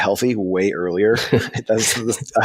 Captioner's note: laughing